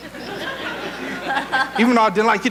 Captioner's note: audience laughing